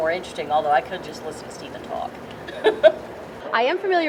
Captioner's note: laughs